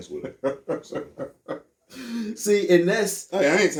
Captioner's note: laughing